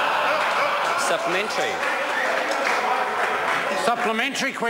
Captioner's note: members laugh